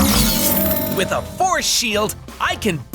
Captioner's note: none